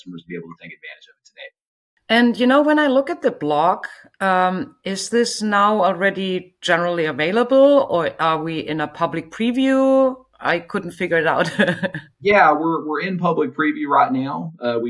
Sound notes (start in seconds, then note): 11.4 chuckles